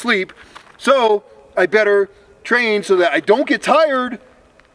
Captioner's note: sarcastic tone